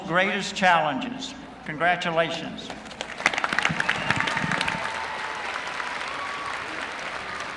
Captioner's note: applause